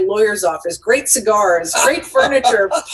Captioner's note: laughing